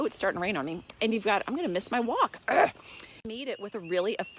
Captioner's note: groans